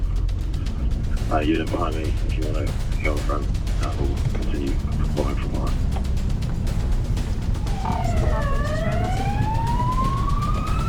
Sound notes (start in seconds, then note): 2.1 sirens